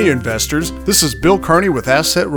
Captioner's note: voiceover